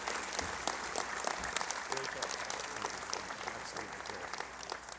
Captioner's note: applause